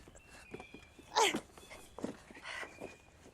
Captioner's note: Andrea groans